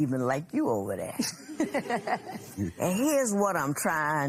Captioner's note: laughter